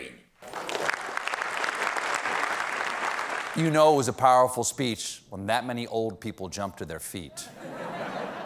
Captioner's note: applause